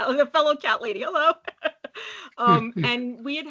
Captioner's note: chuckling